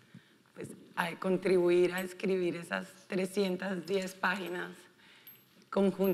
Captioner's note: speaking in foreign language